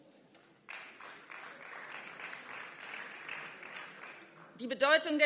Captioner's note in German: Beifall